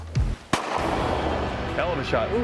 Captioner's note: gun shot